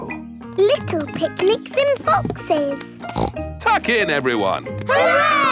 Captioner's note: snorts